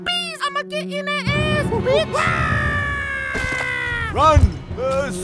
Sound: monk yelling

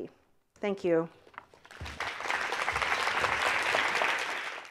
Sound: audience clapping

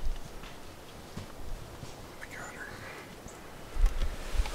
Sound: arrow launched

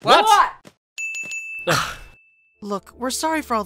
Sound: three dings

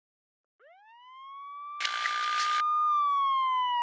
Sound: siren wails

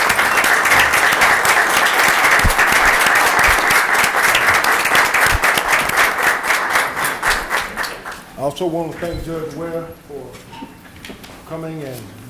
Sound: applause

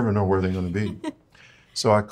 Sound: laughs

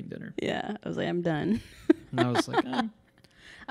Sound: laughing

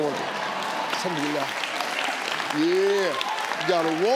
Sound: audience cheers

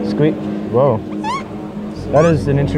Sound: squeak; squeak squeak

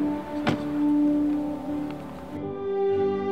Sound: car door shuts

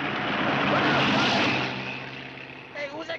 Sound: shouting

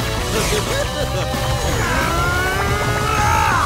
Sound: grunting

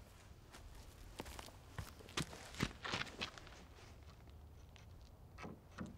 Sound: footsteps cluttering

